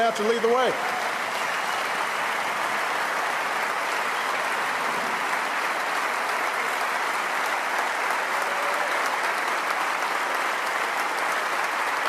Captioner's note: applause